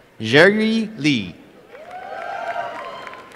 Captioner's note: applause and cheering